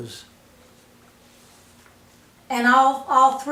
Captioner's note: silence